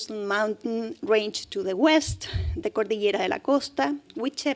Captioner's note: speaking spanish